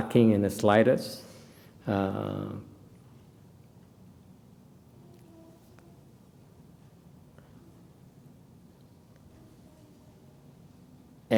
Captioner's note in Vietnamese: silence